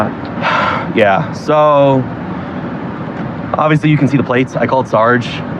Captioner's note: sigighs